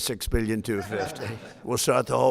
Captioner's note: laughter